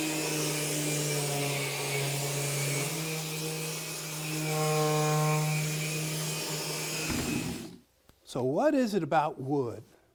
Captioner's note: sander humming